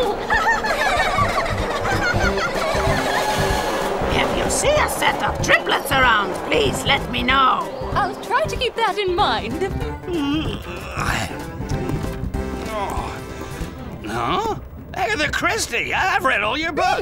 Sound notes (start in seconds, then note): 0.0 laughter; 10.0 yawns